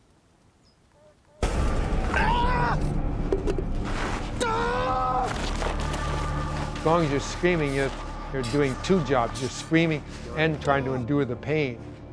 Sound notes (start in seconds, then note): 2.0 screaming; 5.2 rustling